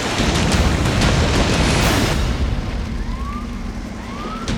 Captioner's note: rippling through water